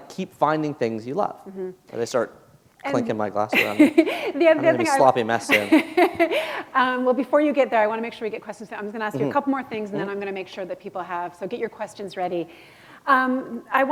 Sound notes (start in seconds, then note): 5.4 laughter